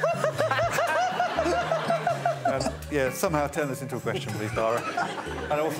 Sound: laughter

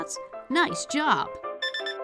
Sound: Turbo voice

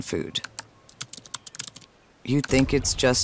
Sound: text typing

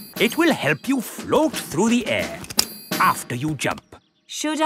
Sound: clicking

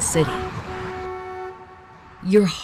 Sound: cars honk

